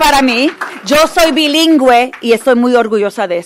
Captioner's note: applause